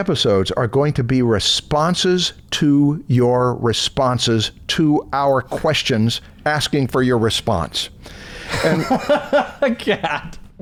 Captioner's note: laughter